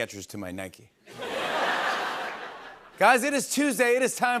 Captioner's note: laughter